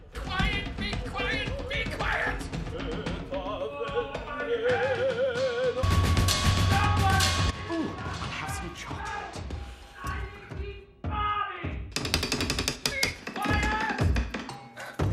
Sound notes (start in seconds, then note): 3.0 sings opera; 10.0 shouting